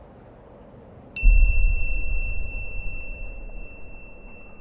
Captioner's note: bell chiming